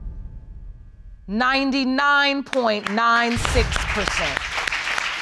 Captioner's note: applause